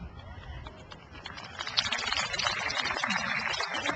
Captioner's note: crowd applauds